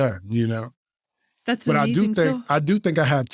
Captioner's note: faintly speaking